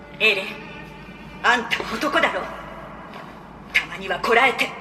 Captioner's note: Attack on Titan Japanese audio